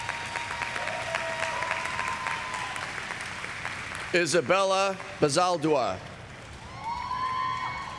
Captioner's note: applause